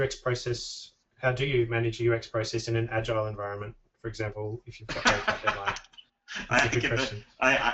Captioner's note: loud laughter